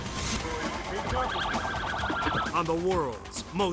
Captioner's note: sirens blaring